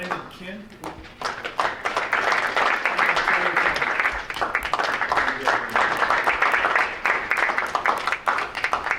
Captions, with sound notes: Brandon Kim? (audience applauding) And Taylor Phan. (audience applauding)